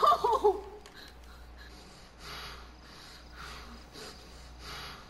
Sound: Max Panting

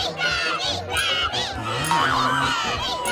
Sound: groaning

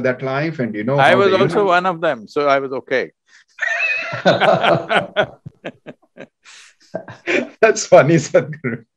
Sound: laughter

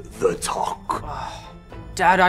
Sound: sighs

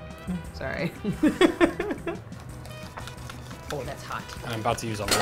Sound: laughs

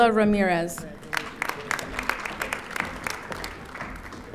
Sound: audience applauding

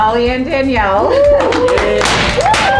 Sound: cheers and applause; pops

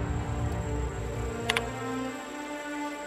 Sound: typing

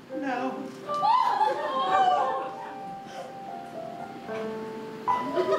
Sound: audience laughing

